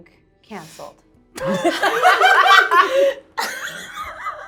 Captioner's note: laughing